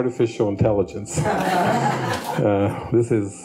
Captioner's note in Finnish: yleisö nauraa